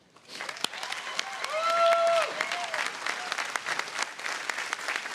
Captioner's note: audience applauding